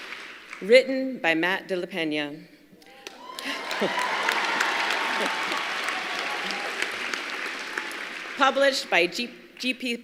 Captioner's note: applause